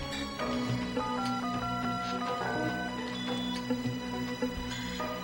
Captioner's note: touch tones